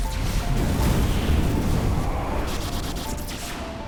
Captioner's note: ships exploding